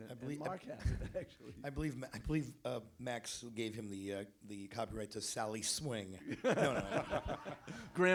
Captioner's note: laughing; laughter